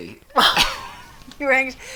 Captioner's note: chuckles